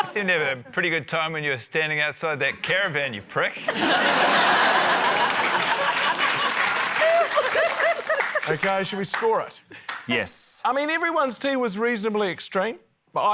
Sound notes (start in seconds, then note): 3.6 laughter; 4.6 applause